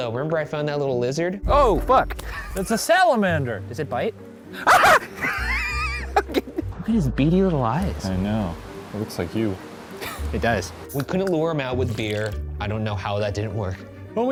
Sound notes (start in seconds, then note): 2.2 laughing; 4.6 screaming and laughing; 10.0 laughing